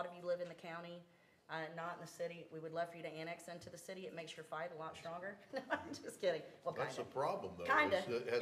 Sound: laughter

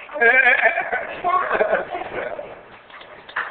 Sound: laughing

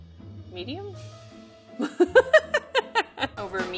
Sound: laughs

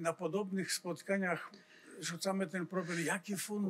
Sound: foreign language

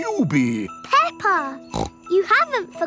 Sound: snorts

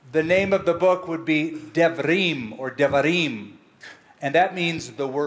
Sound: hebrew

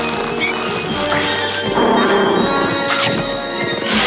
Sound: growling

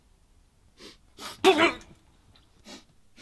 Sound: spits

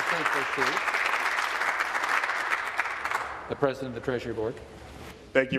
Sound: applause

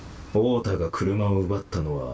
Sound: none

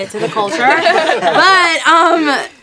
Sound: laughs

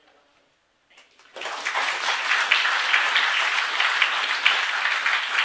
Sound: applause

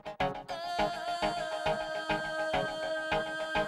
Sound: vocalizes

